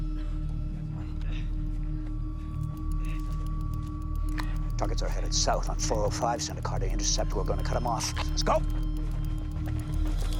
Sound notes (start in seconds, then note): none